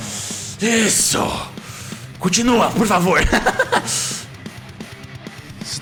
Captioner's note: laughs